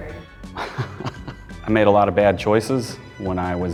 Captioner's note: chuckling